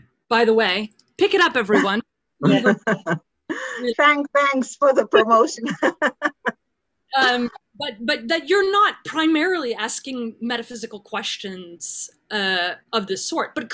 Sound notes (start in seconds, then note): 2.4 laughs; 5.1 laughs